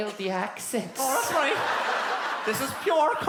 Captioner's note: little girl's voice; Cork accent